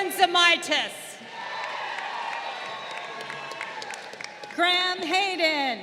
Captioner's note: crowd cheering